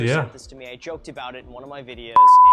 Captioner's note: beep